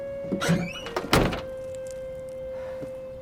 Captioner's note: trunk shuts